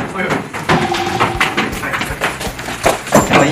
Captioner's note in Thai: เสียงฝีเท้าที่เร่งรีบ